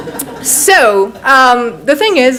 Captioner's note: audience laughs